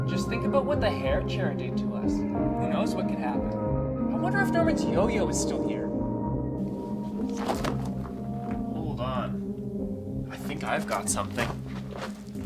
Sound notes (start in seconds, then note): 6.6 shoes crunching